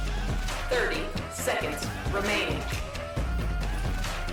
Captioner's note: computer over speaker